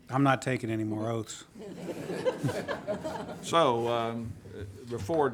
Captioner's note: audience laughing